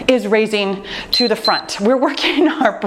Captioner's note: timer beeps